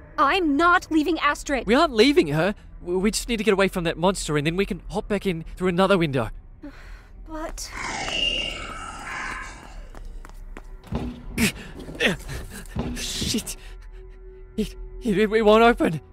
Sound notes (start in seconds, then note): 7.4 hesitant; 7.7 shrieks; 13.0 grunts